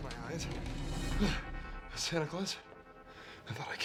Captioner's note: grunts